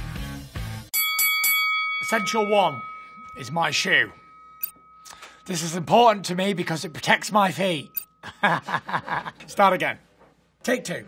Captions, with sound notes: [bell dings] Section one, is my shoe. This is important to me because it protects my feet. [laughs] Start again, take two.